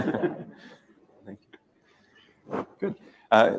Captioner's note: laughter